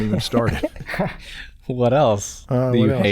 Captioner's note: chuckles